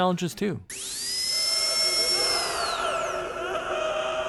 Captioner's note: dentist drill